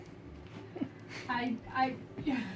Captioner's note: fiancé chuckles